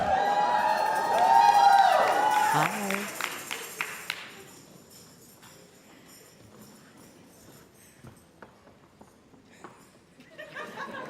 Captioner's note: applause and cheers